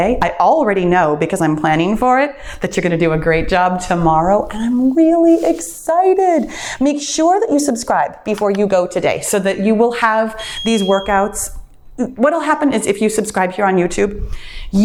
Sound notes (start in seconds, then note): 8.2 mouse clicks; 10.5 bell dings